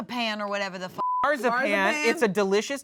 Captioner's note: beep